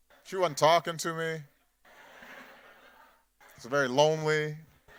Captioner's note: laughter